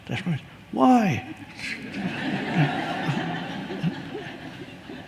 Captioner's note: audience laughs